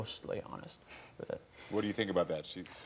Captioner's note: laughing